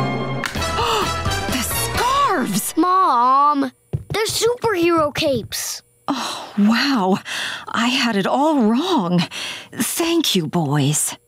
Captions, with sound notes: [gasping] The scarves! Mom, they're superhero capes. [sighing] Wow, I had it all wrong. Thank you, boys.